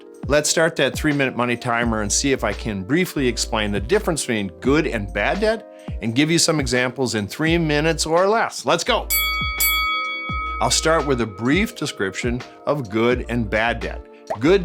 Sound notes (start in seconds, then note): 9.1 bell dings